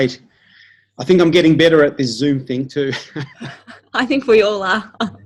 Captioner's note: laughs